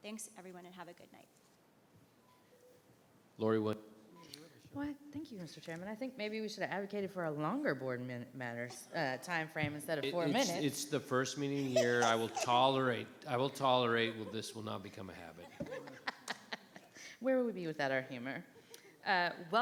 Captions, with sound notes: Thanks everyone and have a good night. - Lorey Williams. - Well, thank you Mr. Chairman. I think maybe we should have advocated for a longer board matters timeframe instead of four minutes. - It' the first meeting year I will tolerate. I will tolerate, but this will not become a habit. (board members laughing) - Where will we be without our humor?